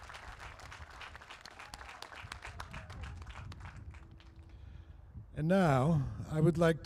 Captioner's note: applause